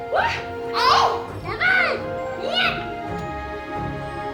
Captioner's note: muffled protesting